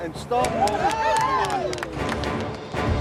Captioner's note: crowd cheering; dramatic music